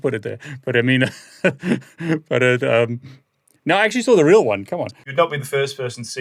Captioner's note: laughs